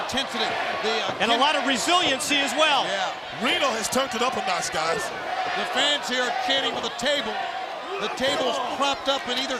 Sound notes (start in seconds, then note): 2.1 crowd cheering